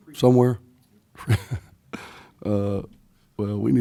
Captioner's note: laughing